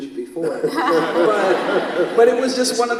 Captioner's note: all laugh